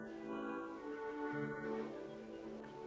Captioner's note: lucky moans